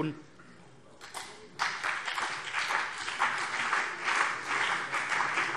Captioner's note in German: Beifall CDU und BÜNDNIS 90/DIE GRÜNEN